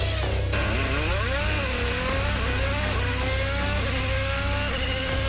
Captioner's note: engine accelerating